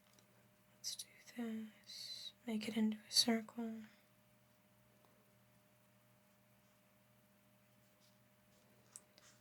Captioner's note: silence; silence